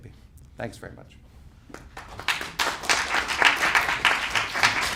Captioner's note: clapping